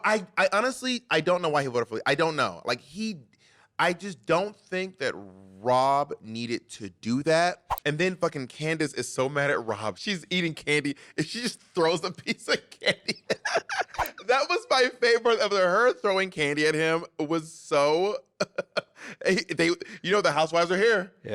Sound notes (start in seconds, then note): 12.2 laughing; 18.3 laughing